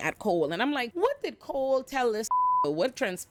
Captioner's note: beep